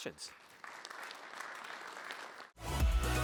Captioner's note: applause